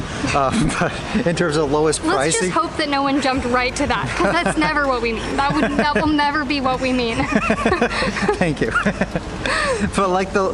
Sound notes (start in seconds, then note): 3.7 laughs; 7.1 laughter